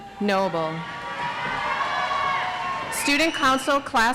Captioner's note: audience applauds